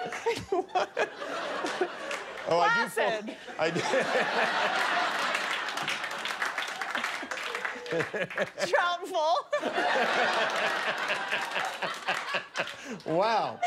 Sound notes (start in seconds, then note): 3.1 laughter